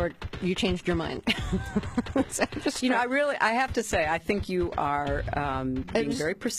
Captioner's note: laughs